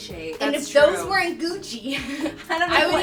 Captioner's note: laughs